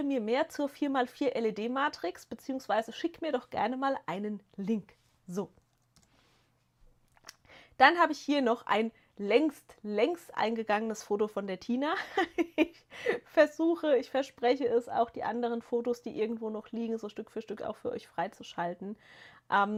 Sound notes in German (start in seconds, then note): 11.9 gelächter